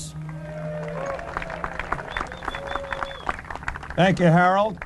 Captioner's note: applause